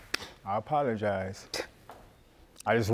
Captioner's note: scoffs